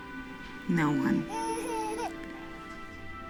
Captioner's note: Eva coos